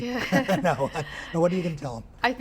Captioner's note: laughter